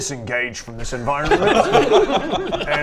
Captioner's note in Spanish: risas